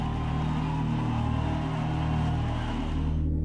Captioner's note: cheering